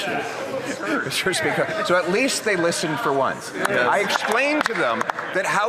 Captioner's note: some Applause